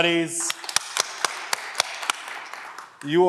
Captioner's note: audience clapping